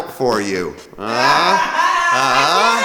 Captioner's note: sarcastically laughs